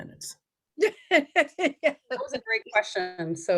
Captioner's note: laughs